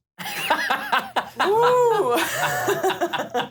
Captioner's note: laughter